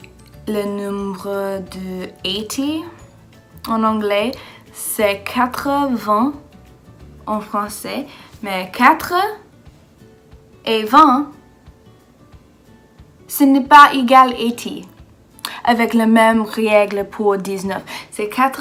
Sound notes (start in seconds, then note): 3.6 French